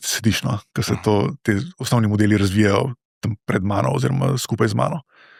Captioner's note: coughing